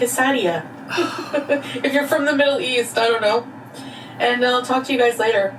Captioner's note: laughs